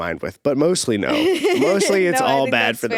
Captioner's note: laughing